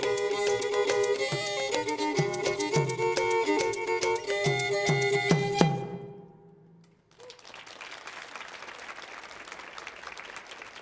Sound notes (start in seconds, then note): 7.0 audience applauding